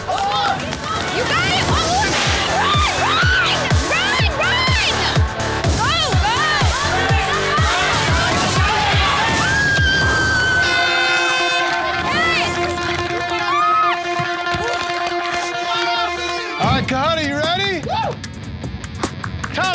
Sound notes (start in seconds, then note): 6.8 contestants cheering; 10.1 air horn blows